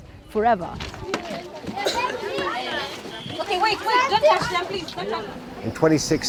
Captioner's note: children talking